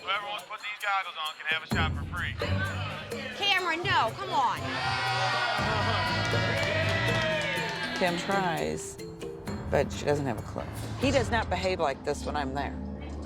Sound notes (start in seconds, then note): 3.8 crowd cheering